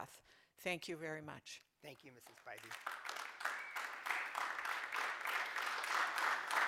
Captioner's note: applause